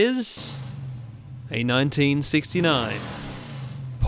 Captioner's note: v8 engine roaring